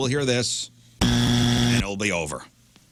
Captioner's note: buzzer Buzzing